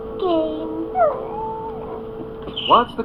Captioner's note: Spot Whines